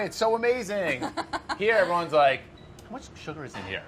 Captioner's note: laughs